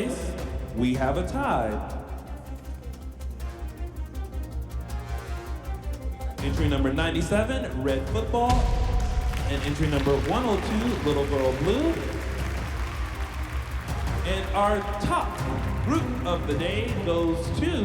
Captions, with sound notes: we have a tie. Entry number 97, "Red Football" and entry number 102, "Little Girl Blue." (audience applauding) And our top group of the day goes to...